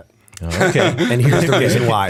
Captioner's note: laughter